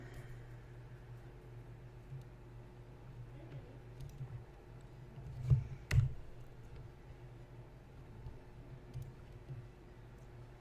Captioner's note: typing, clicking, you know the drill